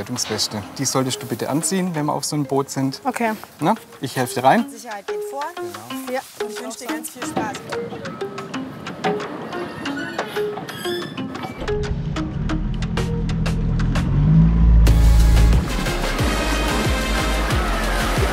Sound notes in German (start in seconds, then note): 9.4 Entspannte Musik; 10.5 Quietschen; 16.1 Schwungvolle Musik